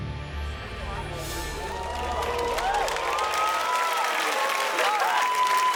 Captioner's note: dramatic music; audience cheers and applauds